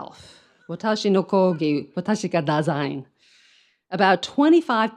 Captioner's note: speaks in foreign language